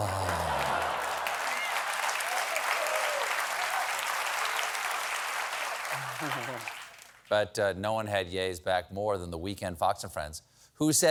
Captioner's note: applause